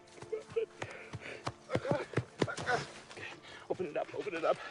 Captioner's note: crying